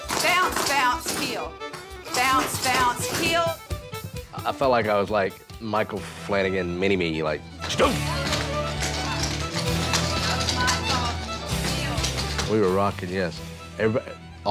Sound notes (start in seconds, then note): 7.7 mimics stomping sound